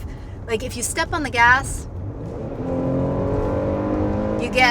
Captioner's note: engine revving